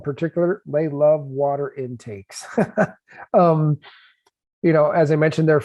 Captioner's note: laughs